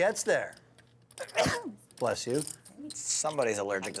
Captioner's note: sneezes